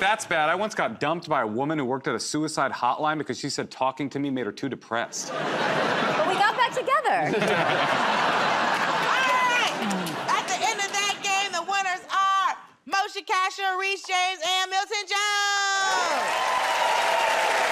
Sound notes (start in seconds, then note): 7.1 laughter